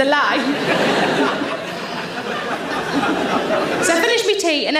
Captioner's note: audience laughs